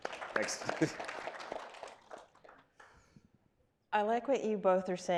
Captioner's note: audience applauding